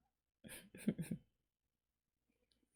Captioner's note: chuckles